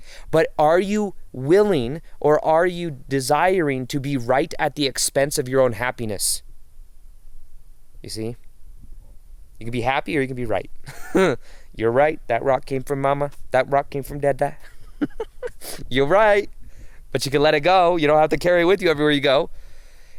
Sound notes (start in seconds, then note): 10.8 chuckles; 14.6 laughs